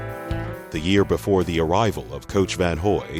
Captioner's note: voiceover